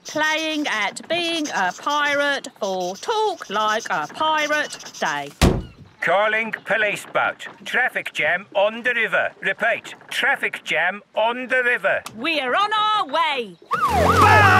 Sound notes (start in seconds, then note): 6.4 voice over radio